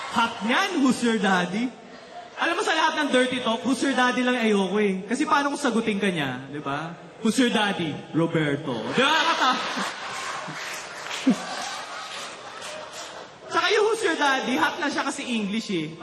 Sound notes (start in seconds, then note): 8.9 laughter